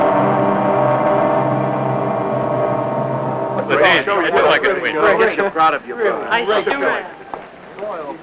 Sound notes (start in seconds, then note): 3.0 chattering